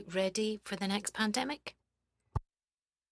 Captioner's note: speaking French